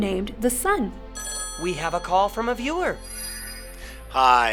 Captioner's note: ring